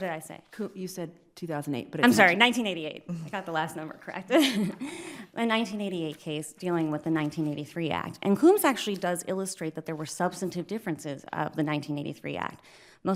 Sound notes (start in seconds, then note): 4.4 laughs